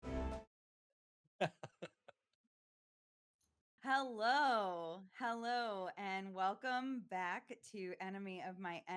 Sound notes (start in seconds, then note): 1.4 laughing